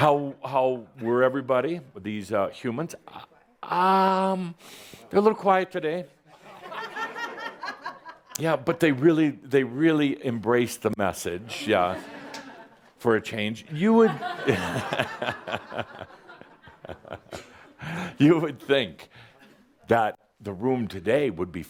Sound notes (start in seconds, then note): 6.5 some more chuckles; 14.0 more chuckles and chuckles